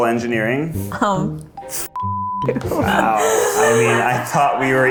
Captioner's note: beep